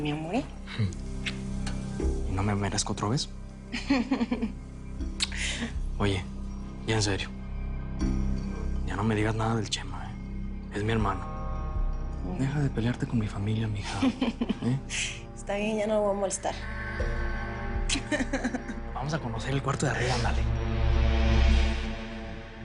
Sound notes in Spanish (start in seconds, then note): 5.0 Riendo; 18.0 Ríe